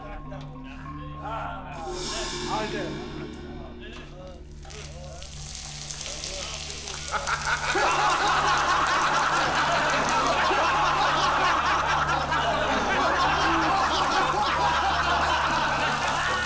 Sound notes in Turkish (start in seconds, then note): 6.8 Gülme sesleri